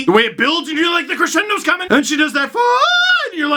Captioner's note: high-pitched voice